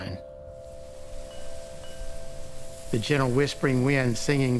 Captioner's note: needles rustling